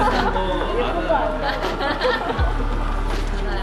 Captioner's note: Hahahahahahahaha; Laughing